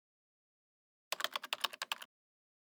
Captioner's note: typing